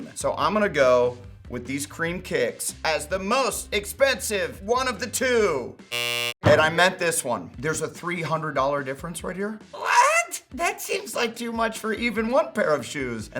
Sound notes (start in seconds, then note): 5.9 buzzer sound